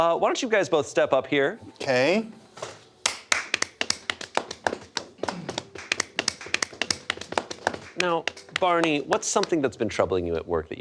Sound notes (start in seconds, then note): 3.0 people clapping